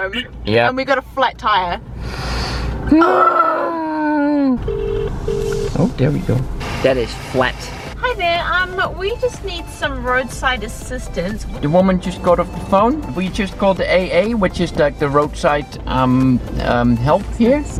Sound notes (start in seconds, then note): 4.6 call connecting